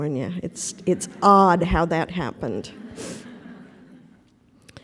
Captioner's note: laughter